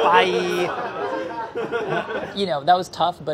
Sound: laughing

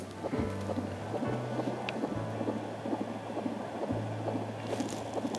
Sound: heartbeat thumping

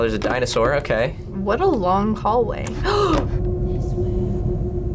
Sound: gasps

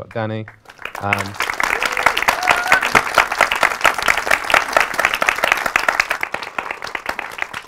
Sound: applause

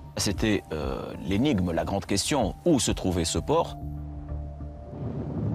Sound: speaking foreign language

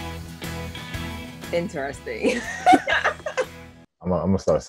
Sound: laughter

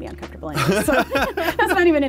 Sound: laughter

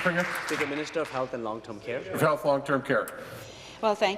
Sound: applause

